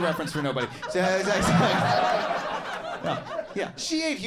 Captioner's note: audience laughing